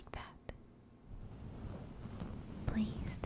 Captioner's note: soft brushing sounds continue